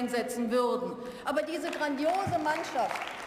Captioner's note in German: Beifall